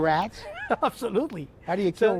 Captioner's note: laughter